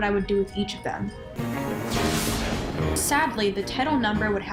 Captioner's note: thunder